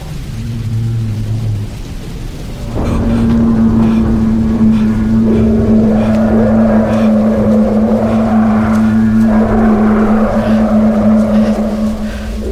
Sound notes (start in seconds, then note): 0.2 nearby groan; 2.9 creature bellowing; 5.3 creature bellowing & others roaring in reply